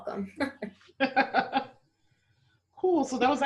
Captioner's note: laughter